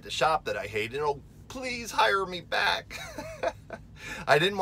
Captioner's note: laughing